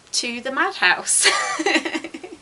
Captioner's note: laughs